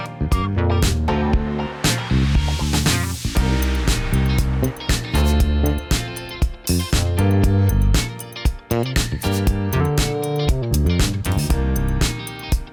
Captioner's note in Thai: ปรบมือ